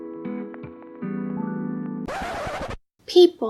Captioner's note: record scratch